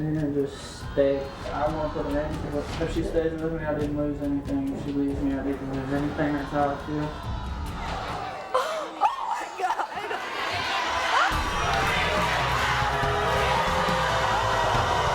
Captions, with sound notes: and just stay. I want to put an end to it. If she stays with me, I didn't lose anything. If she leaves me, I didn't lose anything. That's how I feel. - Oh my God. (audience booing)